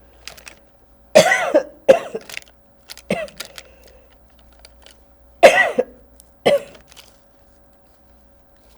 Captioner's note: coughing; pauses 12 seconds